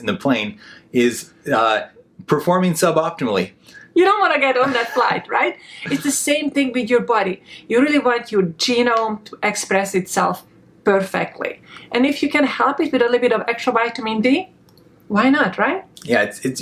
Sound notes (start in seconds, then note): 5.7 laughing